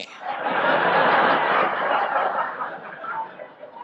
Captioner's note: audience laughs